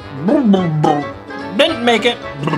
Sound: gurgling

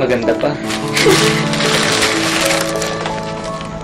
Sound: giggles

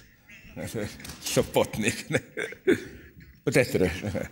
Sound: rires

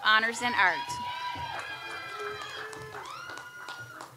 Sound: audience applauds

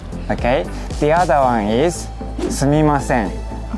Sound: speaking in Japanese

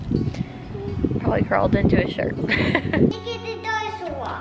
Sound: laughs

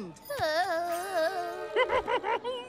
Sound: groaning; chuckling

